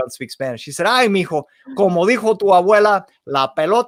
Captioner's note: spoken in foreign language